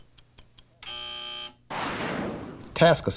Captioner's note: buzzer